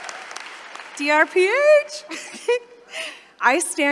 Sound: laughs

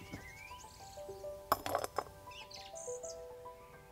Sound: clinks

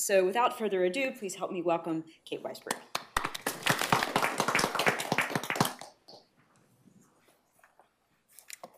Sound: audience applause

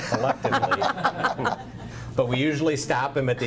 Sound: group laughs

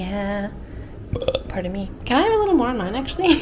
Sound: burping

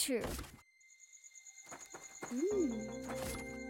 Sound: insects chirping

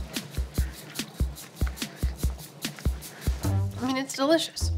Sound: slaps hands together

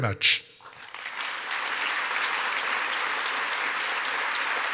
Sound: audience applauding

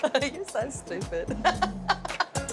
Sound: chuckles

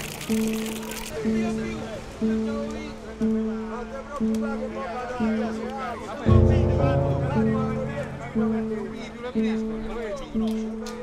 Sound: voices in the background

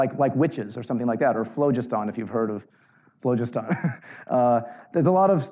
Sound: chuckles

